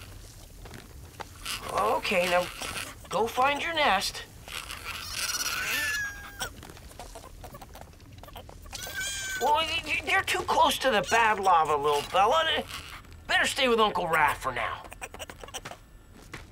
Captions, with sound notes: Okay, now go find your nest. [squawking] You're too close to the bad lava, little fella. Better stay with Uncle Raph for now.